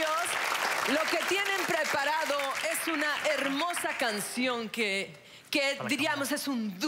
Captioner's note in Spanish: Aplausos